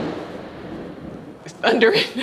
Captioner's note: thunder rumbling